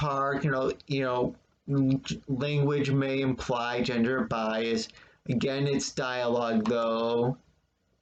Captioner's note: click of trackpad